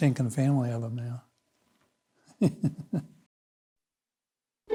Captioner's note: laughing